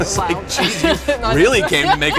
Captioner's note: laughter